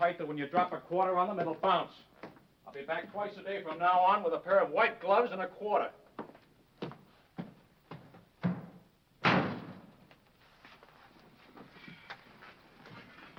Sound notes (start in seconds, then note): 9.2 door slams